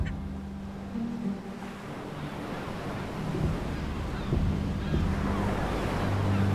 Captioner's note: light dramatic music; waves crashing